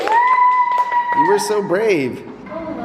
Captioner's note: applause; cheering